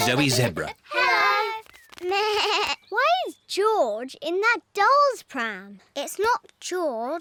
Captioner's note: bleats